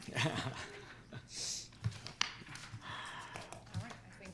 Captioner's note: laughs